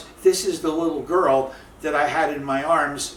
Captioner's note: none